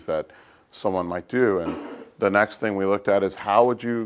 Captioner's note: cough